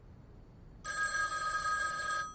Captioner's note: phone ringing